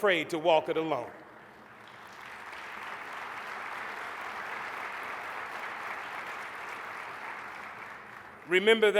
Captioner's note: applause